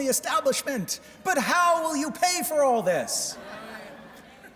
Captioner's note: speaking french